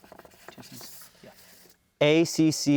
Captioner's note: whispering